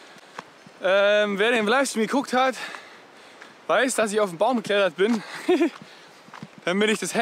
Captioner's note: laughs